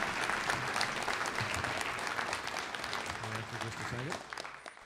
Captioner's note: applause